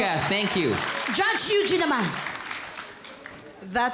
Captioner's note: applause